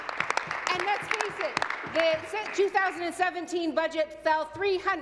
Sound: applause

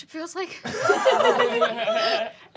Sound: laughing

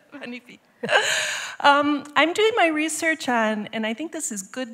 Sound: speaking french

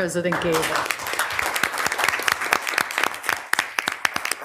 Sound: audience applauding

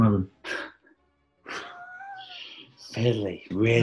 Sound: sniggers

